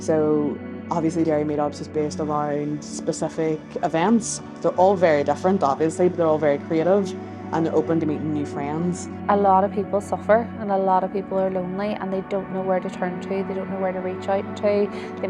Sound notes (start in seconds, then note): none